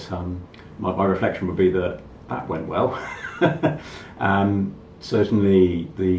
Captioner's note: laughs